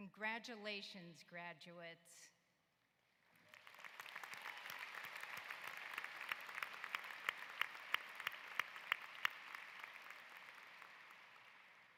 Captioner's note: applause